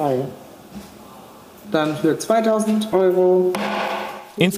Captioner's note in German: Dumpfer Schlag